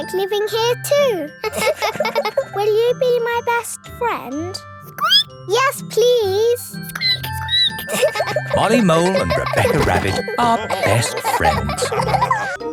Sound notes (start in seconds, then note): 1.4 laughing; 5.1 squeaks; 6.9 squeaking; 7.5 all laughing